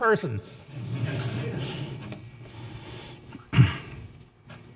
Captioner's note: audience laughing